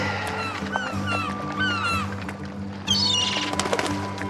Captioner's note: cawing